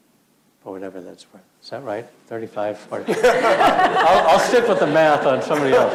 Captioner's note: laughs